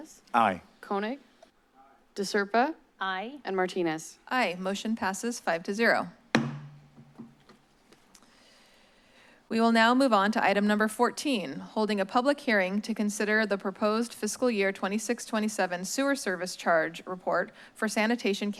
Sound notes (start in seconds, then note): 6.3 strikes gavel